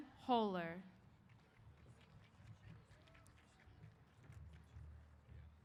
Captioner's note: applause